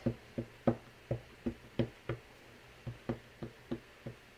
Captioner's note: stamp tapping